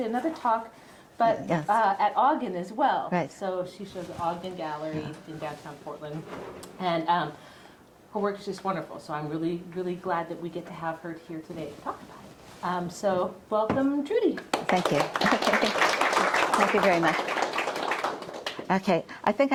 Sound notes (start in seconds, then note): 14.4 audience clapping